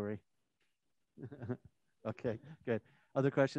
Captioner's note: laughs